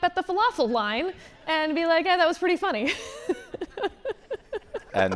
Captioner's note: laughs